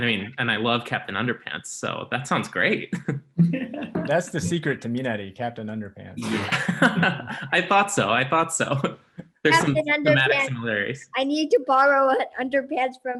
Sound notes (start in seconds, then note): 3.3 laughing; 6.2 everyone laughs